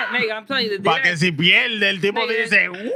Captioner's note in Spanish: Hablando en idioma extranjero